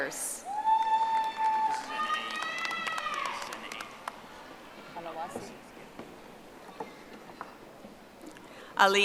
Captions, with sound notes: James R. Byers. (audience applauding)